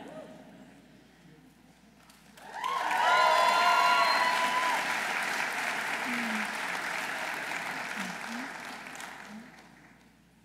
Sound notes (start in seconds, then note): 2.2 audience applauding; 2.4 audience cheering